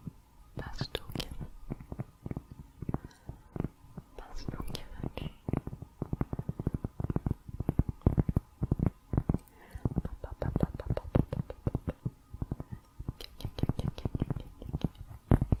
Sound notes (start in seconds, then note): 5.5 tapping on cork